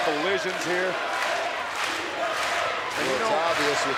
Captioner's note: crowd chanting and clapping